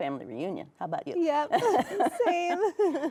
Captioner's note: both laughing